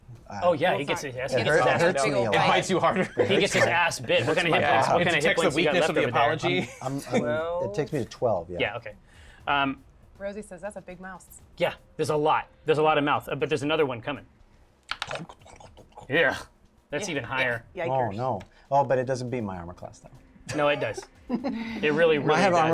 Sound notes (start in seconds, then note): 2.4 laughs; 14.8 munching sounds